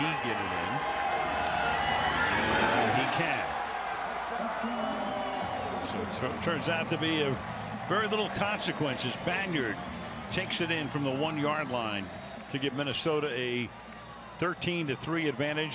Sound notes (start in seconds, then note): 4.2 whistle